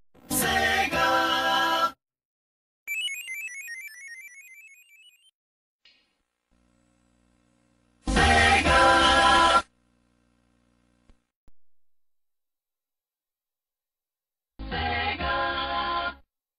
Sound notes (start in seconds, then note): 2.9 descending 16-bit video game sounds